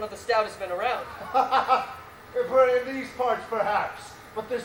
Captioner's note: laughs